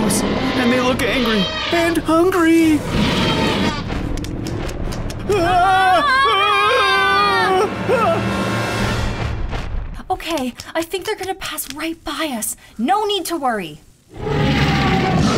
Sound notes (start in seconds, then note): 2.8 growling; 14.1 roaring